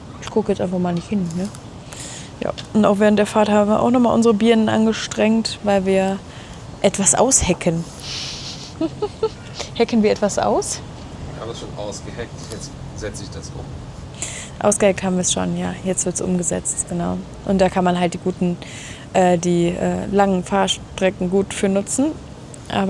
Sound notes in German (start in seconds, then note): 7.8 schnauben